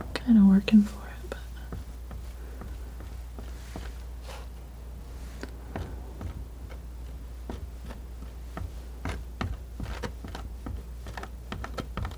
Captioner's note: scratching